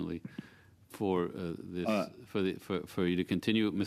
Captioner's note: speaking French